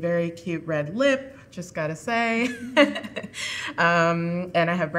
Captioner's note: chuckling